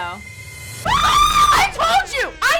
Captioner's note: screams